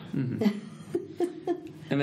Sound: laughs

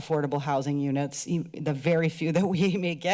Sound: chuckles

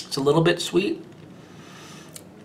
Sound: inhaling in thought

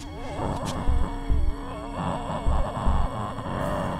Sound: zombie groaning

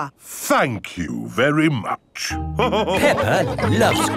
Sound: all laughing

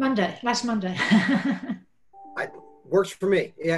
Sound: laughs

